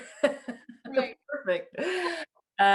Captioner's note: both laugh